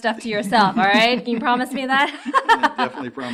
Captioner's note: laughs